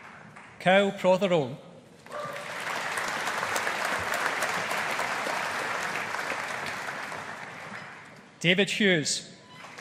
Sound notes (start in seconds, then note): 2.0 audience applauding; 9.6 audience applauding